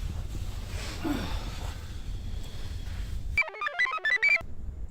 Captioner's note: sighs; computer chirps